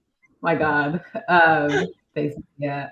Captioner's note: all chuckles